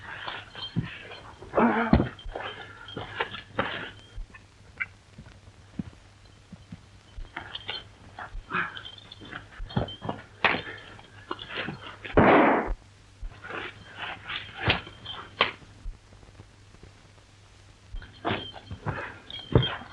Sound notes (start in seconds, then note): 1.5 grunting; 12.2 gun shot